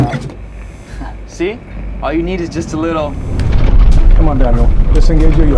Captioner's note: banging; chuckles